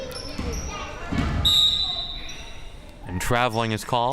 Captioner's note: whistle chirping